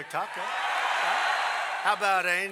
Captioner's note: cheering and applause